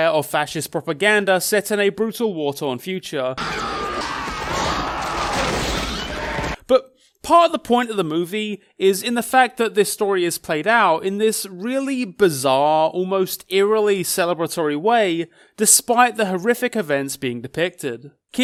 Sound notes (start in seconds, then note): 3.4 monster roaring; 3.4 screaming